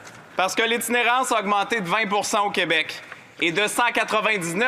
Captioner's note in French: voix de l'interprète